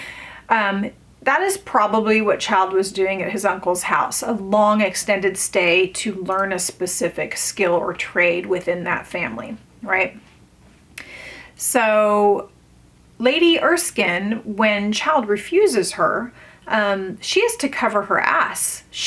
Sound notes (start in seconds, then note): none